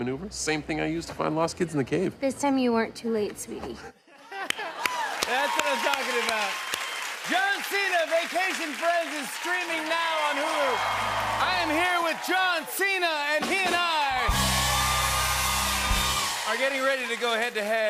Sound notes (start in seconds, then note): 13.6 cheering and applause; 14.3 rimshot